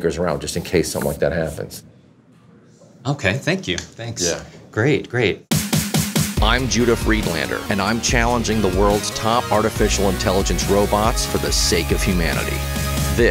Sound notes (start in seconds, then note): 5.8 upbeat electronic music; 6.7 voiceover